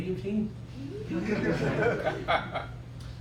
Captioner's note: laughter